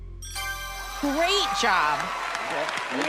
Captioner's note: ding